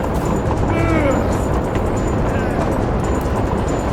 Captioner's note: tense music continues; Bruce gasping